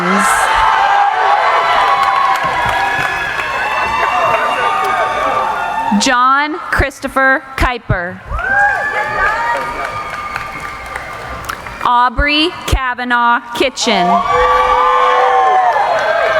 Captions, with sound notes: (cheering) John Christopher Kuyper. (cheering) Aubrey Kavanaugh Kitchen. (cheering)